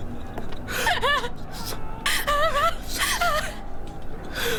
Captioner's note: whispering; crying